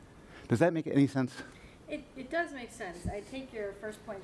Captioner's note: voiceover